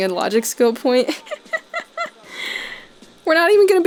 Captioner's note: snickering